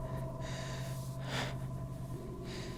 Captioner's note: inhales and exhales